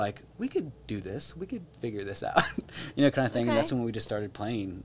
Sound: chuckles

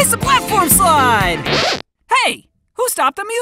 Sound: record scratches

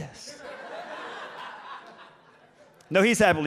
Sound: audience laughs

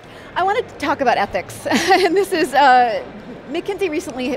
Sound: laughs

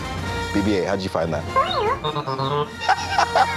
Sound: beeping; laughter

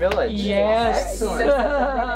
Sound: laughs

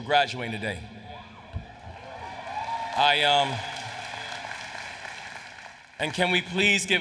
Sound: applause

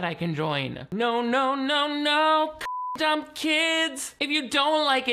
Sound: beep

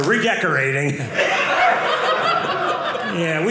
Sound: audience laughing

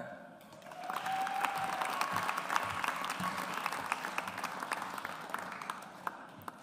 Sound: audience applauds

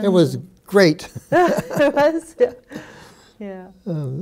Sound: laughing

